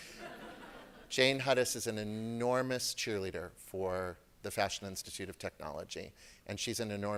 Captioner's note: laughter